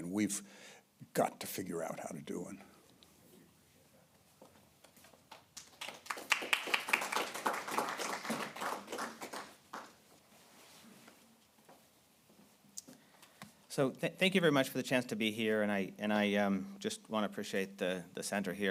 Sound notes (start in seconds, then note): 2.6 applause